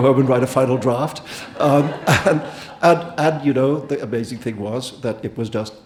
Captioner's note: audience laughing